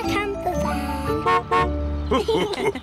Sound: horn honks; laughter

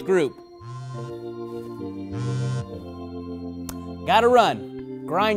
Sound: phone vibrating

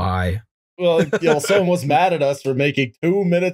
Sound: laughter

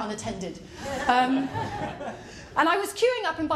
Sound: laughter

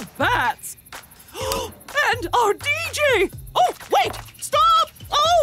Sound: gasping

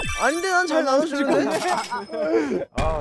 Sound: hahahaha

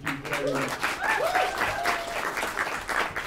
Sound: applause

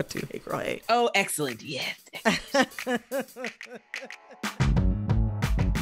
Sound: laughter

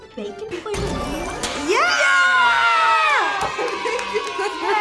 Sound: crowd cheers; laughing

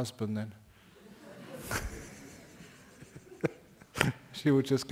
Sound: laughter from the audience

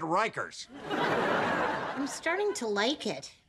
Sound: audience laughing

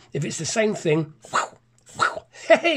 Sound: pen swish

